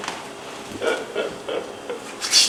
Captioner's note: laughs